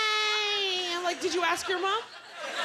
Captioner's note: laughter